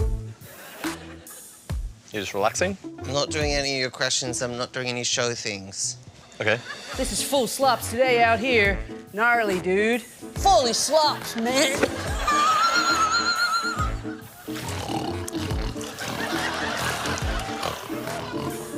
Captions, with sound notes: You're just relaxing? I'm not doing any of your questions. I'm not doing any show things. OK. (US ACCENT) This is full slops today out here. Gnarly, dude. Fully slops, man! (LAUGHS) (GRUNTS LIKE A PIG)